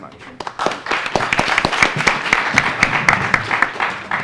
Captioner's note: attendees applauding